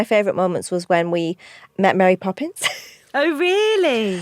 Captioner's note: laughs